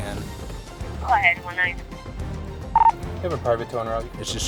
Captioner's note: radio chatter